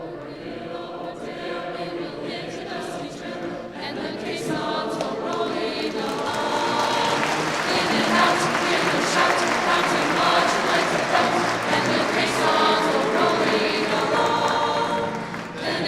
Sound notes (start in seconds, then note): 7.8 audience applauding